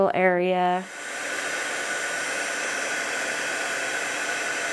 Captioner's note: heat tool whirring